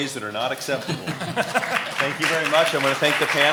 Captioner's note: laughing; applauding